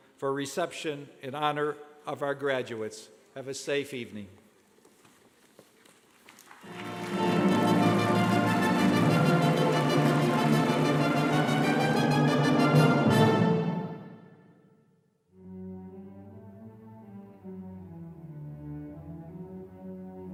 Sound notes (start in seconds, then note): 6.3 clapping